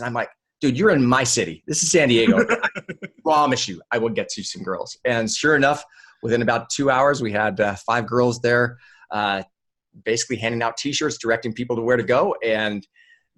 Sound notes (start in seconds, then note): 2.1 laughs